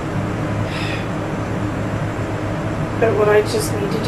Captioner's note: sighs